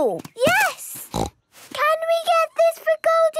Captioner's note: snorts